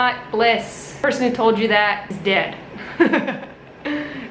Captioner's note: laughs